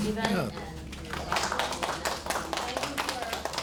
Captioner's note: audience applauding